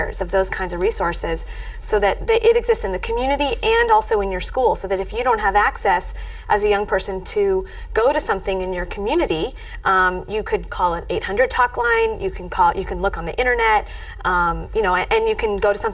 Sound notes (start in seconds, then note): none